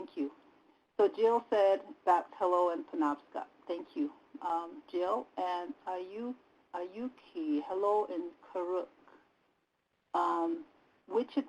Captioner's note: native language spoken; native language spoken